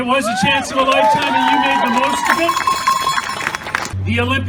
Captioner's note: cheering and applauding